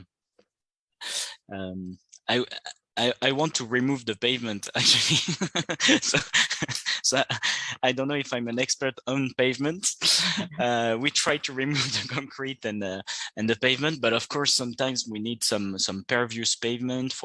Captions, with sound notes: that I want to remove the pavement actually. (CHUCKLES) So, I don't know if I'm an expert on pavement. We try to remove the concrete and the pavement but of course, sometimes we need some pervious pavement